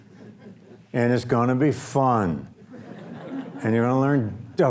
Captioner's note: audience laughs